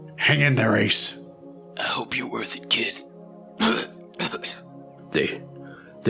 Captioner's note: coughs